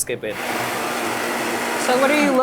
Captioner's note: motor whirring